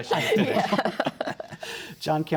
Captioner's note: laughter